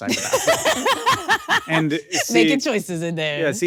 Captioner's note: Akilah laughing